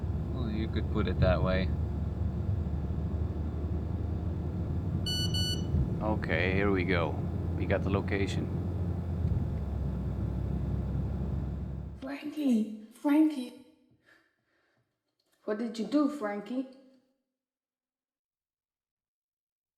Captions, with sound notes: Oh, you could put it that way. [Phone beeping.] OK, here we go. We got the location. Frankie, Frankie. What did you do, Frankie?